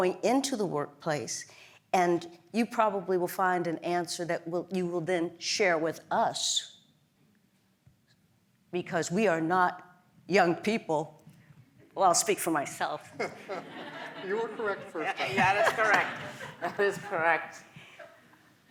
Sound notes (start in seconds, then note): 13.0 laugh